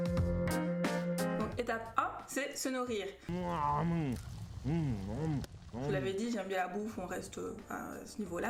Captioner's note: om nom nom